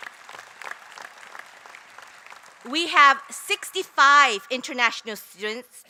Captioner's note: applause